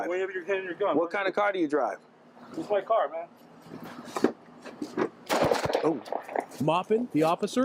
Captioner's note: gunshots